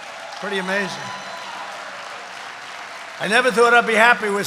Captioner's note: applause